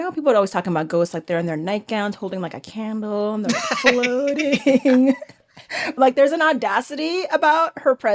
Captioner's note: they laugh